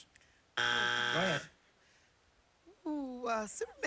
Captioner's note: buzzer